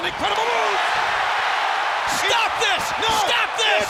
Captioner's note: audience cheers